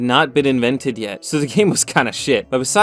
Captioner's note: chuckling